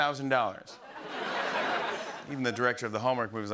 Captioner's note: laughter